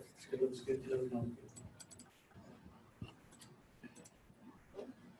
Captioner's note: speaks off-microphone